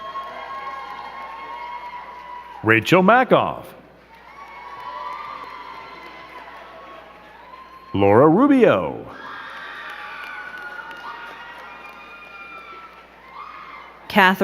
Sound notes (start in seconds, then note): 0.2 crowd cheering and clapping; 4.6 crowd cheering and clapping; 9.9 crowd cheering and clapping